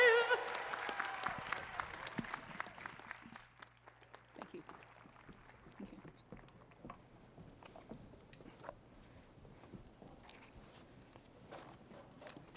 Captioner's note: applause